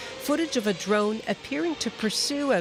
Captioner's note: sound of siren